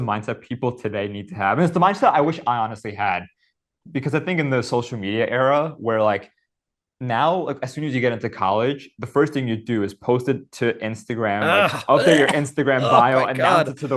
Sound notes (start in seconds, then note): 11.4 Hank gags